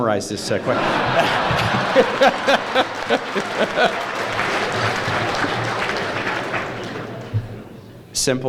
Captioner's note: applause